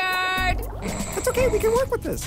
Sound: snores

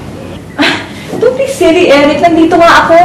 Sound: scoffs

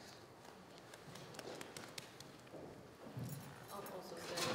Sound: audience applauding

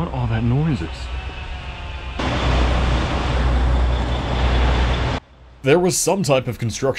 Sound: machinery whirrs

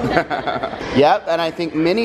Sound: laughs

